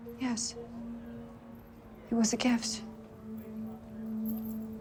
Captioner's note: none